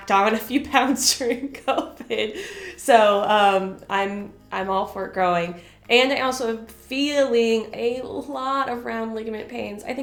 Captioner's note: chuckle